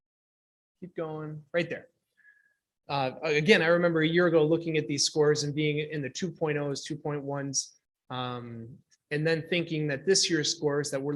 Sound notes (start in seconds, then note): none